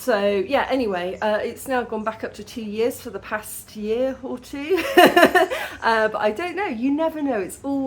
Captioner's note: laughing